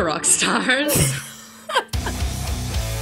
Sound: laughs; rock music

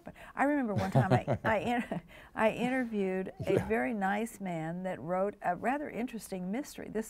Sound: chuckles

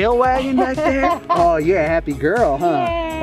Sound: laughs

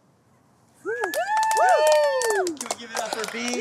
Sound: audience cheers and applauds

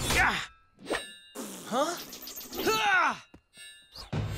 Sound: grunting

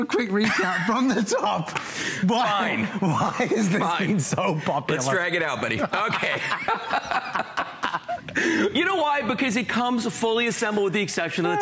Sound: laughter

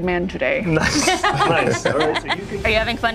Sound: player laughs

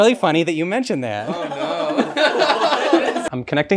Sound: laughs

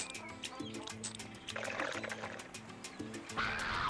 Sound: slurping

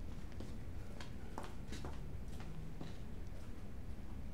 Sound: heels clacking

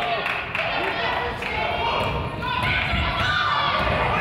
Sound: crowd applauds

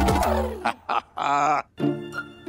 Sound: giggles

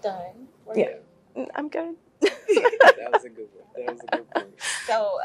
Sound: laugh

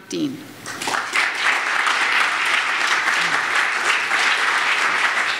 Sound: audience applauds

